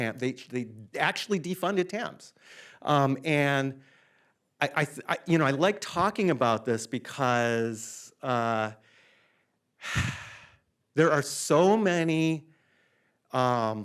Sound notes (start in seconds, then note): 9.8 sighs